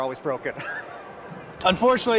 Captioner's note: chuckles